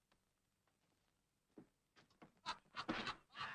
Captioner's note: raucous laughter